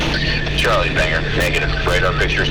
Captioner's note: voiceover